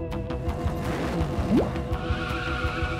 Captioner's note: racecars revving